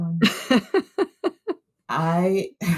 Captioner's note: laughter